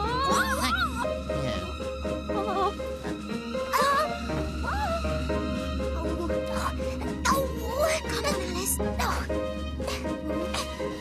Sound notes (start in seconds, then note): 7.6 Alice Grunting